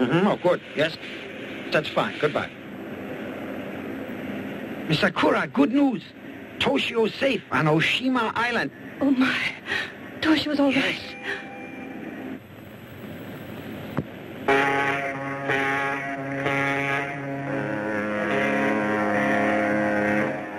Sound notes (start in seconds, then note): 14.4 boat horn blares